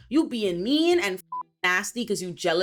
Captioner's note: beep